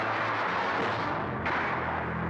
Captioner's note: wham